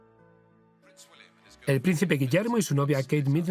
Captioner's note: voiceover